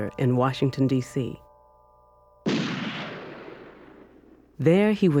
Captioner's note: gunshot